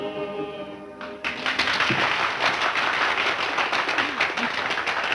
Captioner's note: crowd applauding